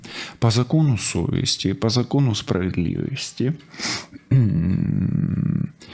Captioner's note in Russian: фыркает